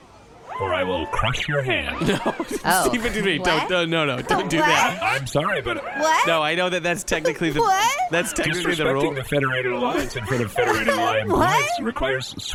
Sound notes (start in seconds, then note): 2.4 upset noises; 9.8 crying now